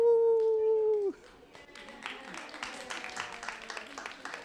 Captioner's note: applause